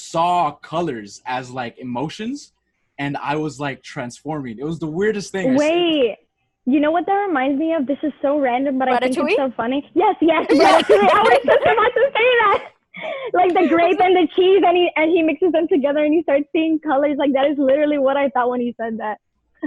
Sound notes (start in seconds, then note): 5.5 laughs; 10.5 boisterous laughter